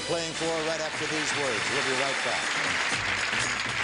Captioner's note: audience clapping